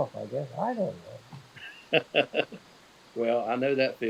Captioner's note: laughing